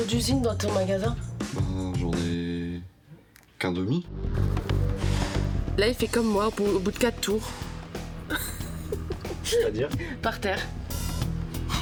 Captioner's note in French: rires